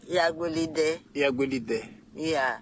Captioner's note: speaking in local language